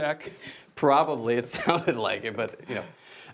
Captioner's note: laughing